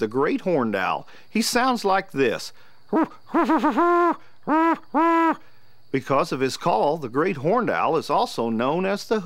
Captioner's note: great horned owl hoot